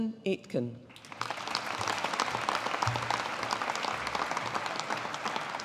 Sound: audience applauding

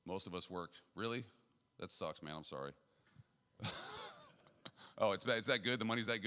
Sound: laughs

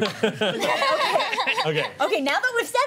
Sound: laughter

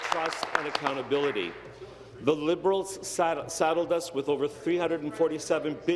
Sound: applause

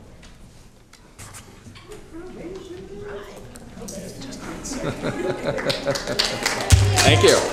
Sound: applause

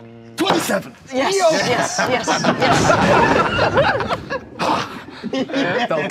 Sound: everyone cheers and laughs

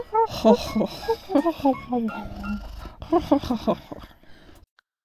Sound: overlapping snoring

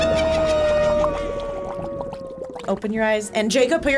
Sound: evil laughter; cauldron bubbles

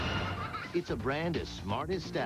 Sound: kid giggling

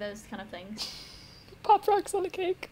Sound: quiet giggle

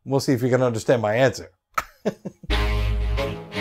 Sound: chuckles

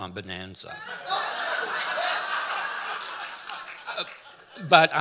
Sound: audience laughing

